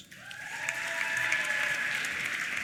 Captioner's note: applause; cheers